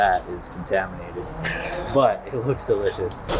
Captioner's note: laughs